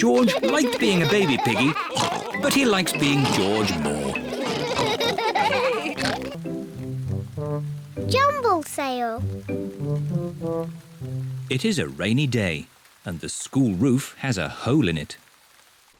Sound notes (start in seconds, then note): 5.4 all laugh